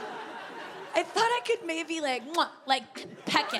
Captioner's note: smacks lips